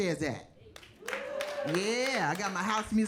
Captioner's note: audience cheering